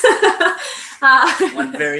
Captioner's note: laughing